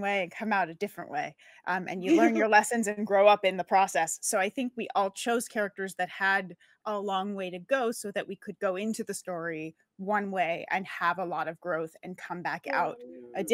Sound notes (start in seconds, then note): 2.0 laughs